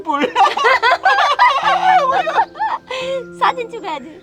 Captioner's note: both laughing